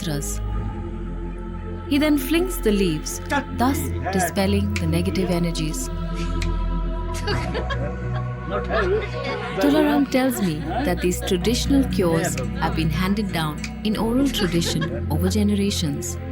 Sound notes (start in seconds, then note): 6.2 enigmatic music; 7.2 laughter